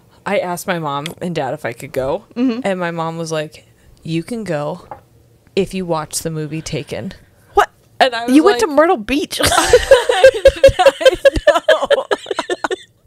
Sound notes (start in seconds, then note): 9.4 panel laughing